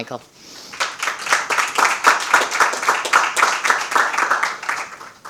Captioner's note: audience applauding